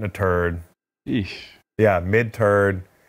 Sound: sighs in disgust

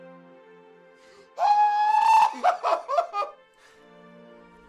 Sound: screaming

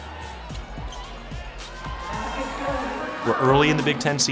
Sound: crowd cheering; upbeat music

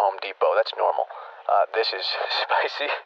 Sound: laughing

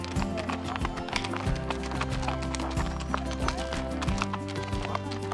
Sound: hooves on gravel

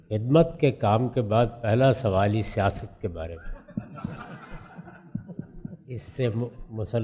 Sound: laughter

